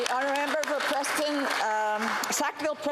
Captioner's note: applause